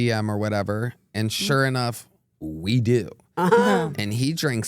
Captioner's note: chuckle